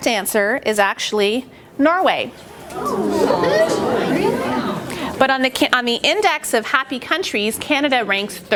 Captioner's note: oooohs